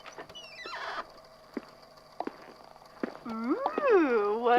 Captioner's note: door opens; footsteps approaching